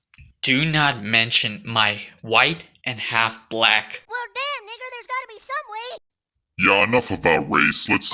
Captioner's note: in deep voice